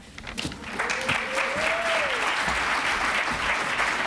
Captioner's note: applause